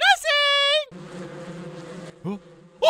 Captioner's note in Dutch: zoemgeluid